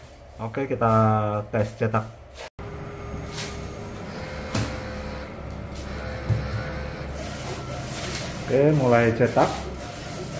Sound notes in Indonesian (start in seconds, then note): 2.6 suara mesin printer